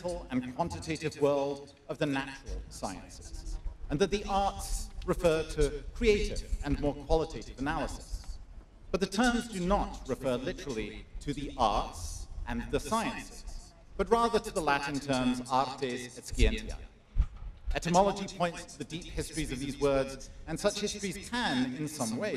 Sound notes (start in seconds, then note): none